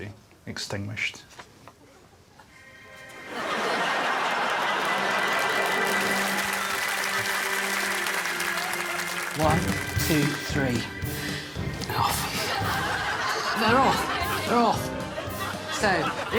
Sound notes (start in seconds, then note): 5.6 audience laughing and clapping